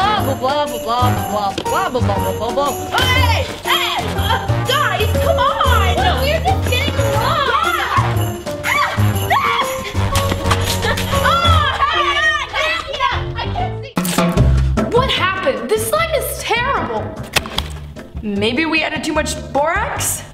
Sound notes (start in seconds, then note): 1.2 splashing; 8.6 screaming